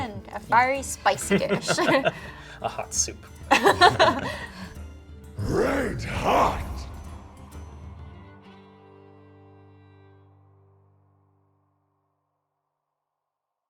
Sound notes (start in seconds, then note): 1.3 chuckles; 3.5 all chuckle; 7.0 jaunty folk music continues; 9.0 music fades out